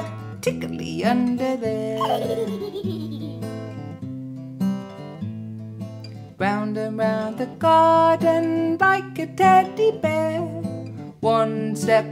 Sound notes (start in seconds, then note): 1.9 giggles